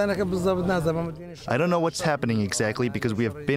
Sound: through translator

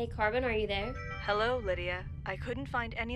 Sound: computer chimes

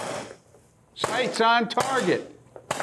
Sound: gunshots

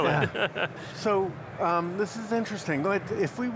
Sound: laughing

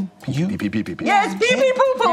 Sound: imitates German accent

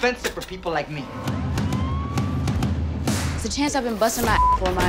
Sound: drum beats; police sirens; beep

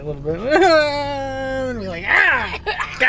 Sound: imitates crying

